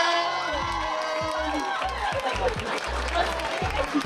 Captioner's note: audience cheering; upbeat music